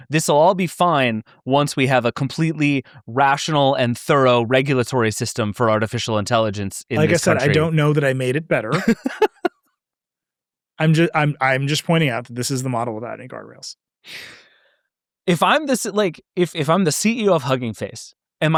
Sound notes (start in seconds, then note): 8.6 laughing